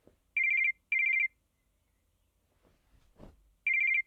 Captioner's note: phone ringing